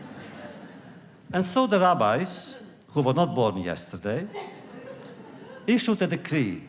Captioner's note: laughter; laughter